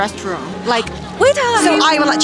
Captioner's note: shout